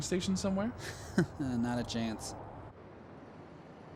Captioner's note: chuckles